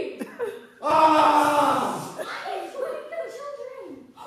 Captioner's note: Tarzan yell